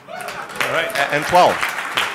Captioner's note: applause